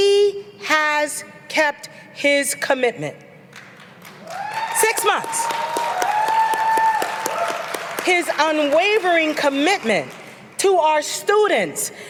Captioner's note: applause